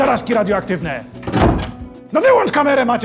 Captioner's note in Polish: dźwięk otwieranych i zamykanych drzwi